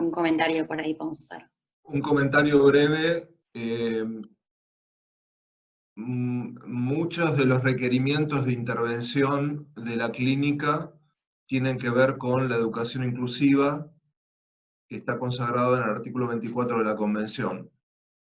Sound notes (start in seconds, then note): 1.8 Spanish